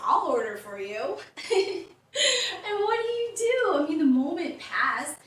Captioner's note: laughter